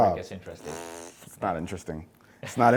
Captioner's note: blows raspberry